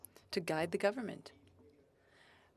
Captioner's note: speaking French